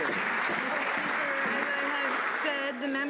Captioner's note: some Applause